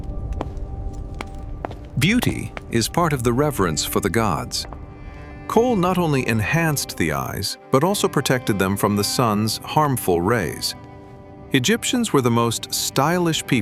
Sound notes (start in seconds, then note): 5.4 footsteps